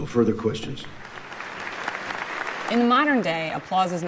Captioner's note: audience applauds